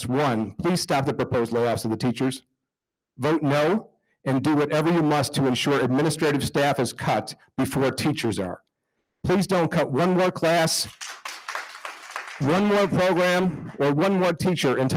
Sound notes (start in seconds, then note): 10.8 attendees applauding